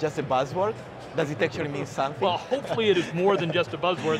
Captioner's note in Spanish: risas